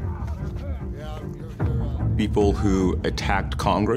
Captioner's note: talking in background